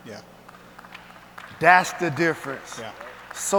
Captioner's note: audience applauds